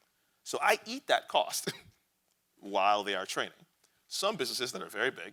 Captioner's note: chuckles